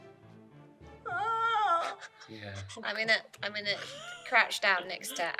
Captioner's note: moans